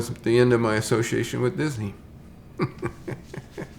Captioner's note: chuckles